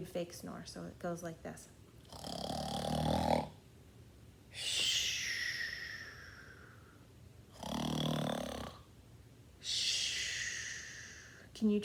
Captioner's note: snores loudly and whistles